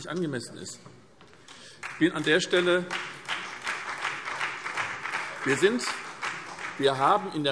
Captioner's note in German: Beifall